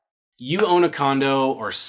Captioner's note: claps hands